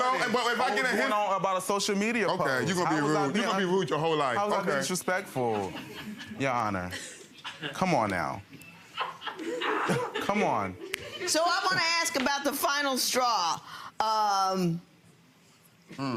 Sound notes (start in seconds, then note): 9.0 audience laughing